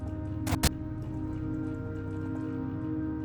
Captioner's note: static crackles